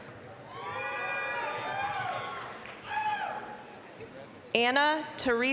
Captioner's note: applause, cheering